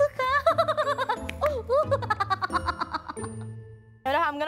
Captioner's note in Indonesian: Ketawa